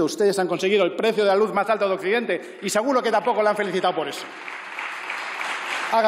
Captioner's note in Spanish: Aplausos